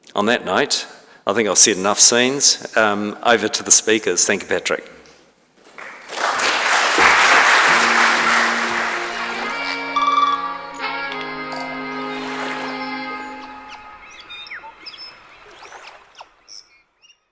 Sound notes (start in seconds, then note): 5.6 audience clapping; 7.0 upbeat music; 8.2 nature sounds